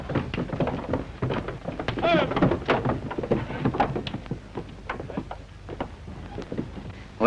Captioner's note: clatter of hooves and shouting